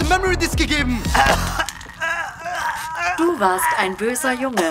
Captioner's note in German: Würggeräusche